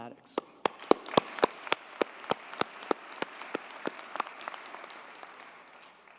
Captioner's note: audience cheers and applauds